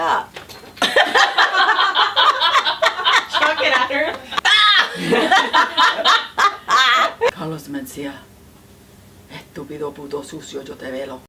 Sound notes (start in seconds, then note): 0.8 laughing; 9.2 speaking Spanish